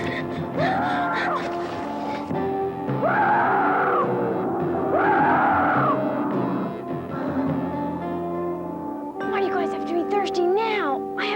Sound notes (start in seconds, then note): 3.0 dinosaurs roaring; 7.5 intense music